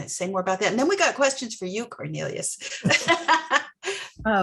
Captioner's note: laughs